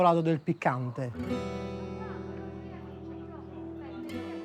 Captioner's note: speaking Italian